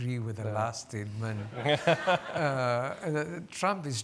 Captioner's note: laughing